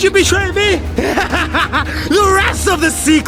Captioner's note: manic laughing